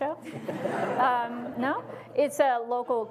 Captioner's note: audience laughs